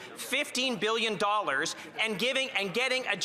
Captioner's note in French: voix de l'interprète